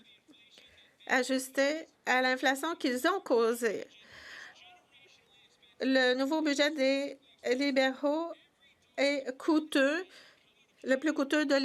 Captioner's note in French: voix de l'interprète